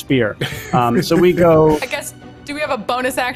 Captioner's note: laughs